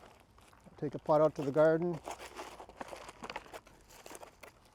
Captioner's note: plant pot shuffling